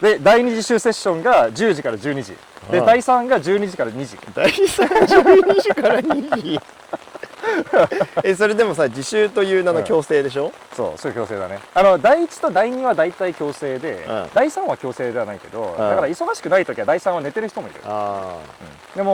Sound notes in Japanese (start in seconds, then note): 6.7 笑笑